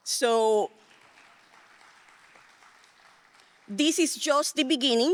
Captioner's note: audience applauding